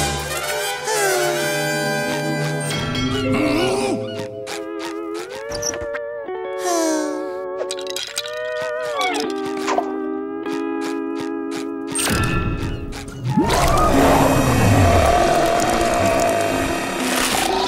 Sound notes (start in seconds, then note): 0.8 sighing; 6.6 sighing; 13.3 roaring